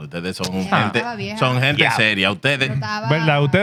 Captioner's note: speaking In Foreign Language